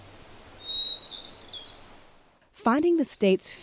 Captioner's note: bird calling